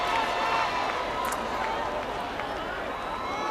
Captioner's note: cheering and applause